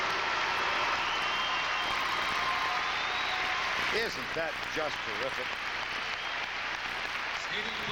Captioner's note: applause